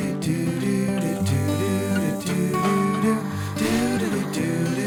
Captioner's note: upbeat music; faucet running; mixer whirring